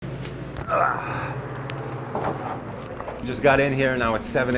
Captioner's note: grunting